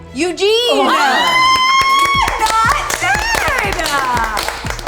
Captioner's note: participants applauds